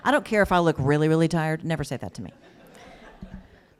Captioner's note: laughter